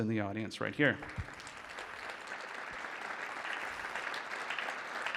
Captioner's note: audience applauding